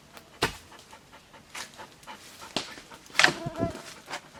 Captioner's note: Cali panting